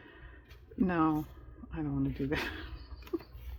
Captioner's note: laughs